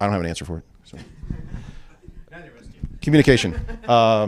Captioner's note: laughter